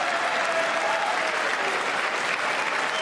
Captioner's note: applause